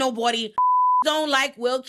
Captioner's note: beep